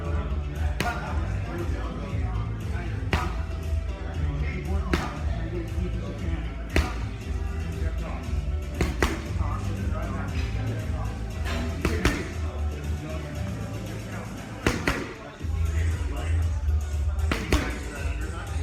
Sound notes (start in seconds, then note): 8.6 glove smacks